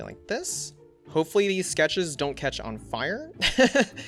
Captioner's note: laughs